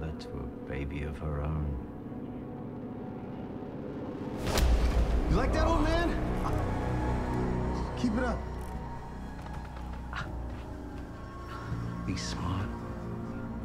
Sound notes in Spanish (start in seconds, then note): 10.0 Gruñidos